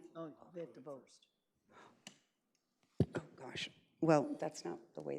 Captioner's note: colleagues speak indistinctly